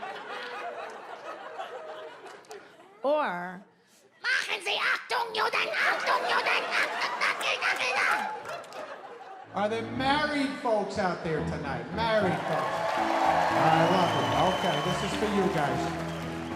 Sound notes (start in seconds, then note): 4.4 ranting in German; 5.6 audience laughs; 12.2 audience applauds and cheers